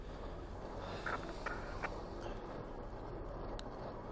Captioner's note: panting stops